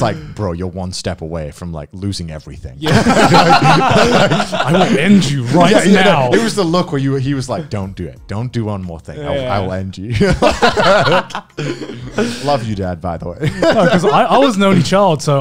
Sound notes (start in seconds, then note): 2.8 laughing; 10.2 laughing